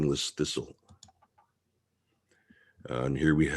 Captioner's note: mouse clicking